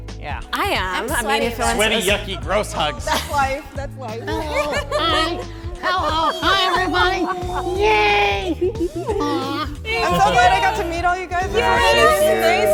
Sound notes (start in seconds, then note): 4.1 intertwined talking and laughing